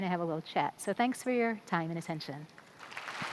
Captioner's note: brief applause